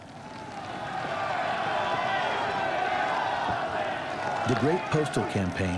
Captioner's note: demonstrators shouting